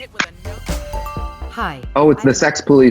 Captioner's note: bass music; chime